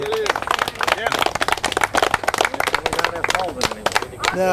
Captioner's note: crowd applause